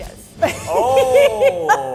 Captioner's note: laughs